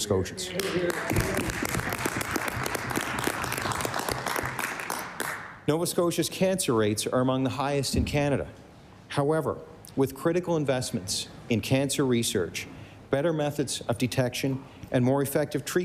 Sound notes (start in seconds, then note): 5.0 applause